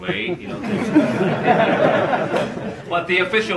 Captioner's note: laughing